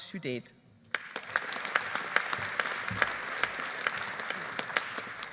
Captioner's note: audience applauding